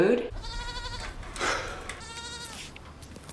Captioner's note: goat bleating